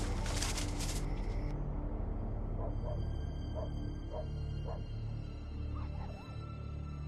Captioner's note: Seaman barking and whimpering